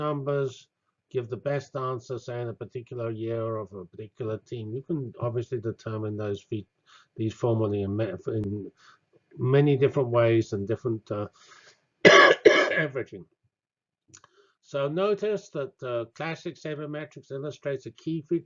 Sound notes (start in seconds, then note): 12.0 cough